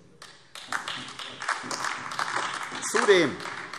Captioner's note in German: Beifall AfD